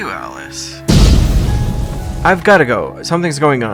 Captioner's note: explosion